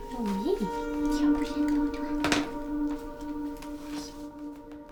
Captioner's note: both speaking French; Ève-Marie's mother speaking French with translation